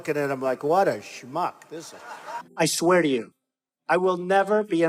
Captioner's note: laughing